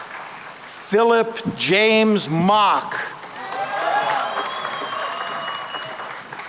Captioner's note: cheering and applause